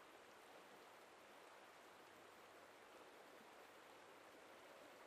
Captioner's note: wind blowing softly